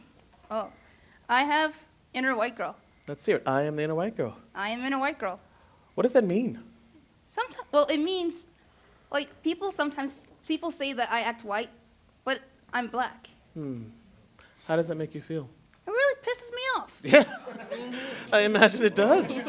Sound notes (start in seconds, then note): 17.0 laughter, chatter